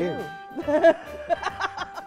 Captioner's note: laughter